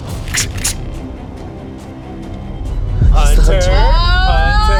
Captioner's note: imitating cocking a gun